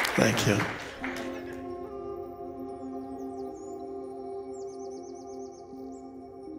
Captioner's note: meditative music; birds chirping